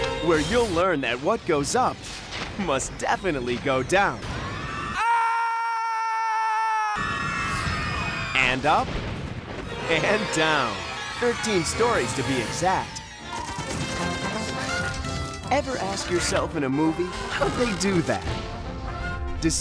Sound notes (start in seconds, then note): 7.2 screaming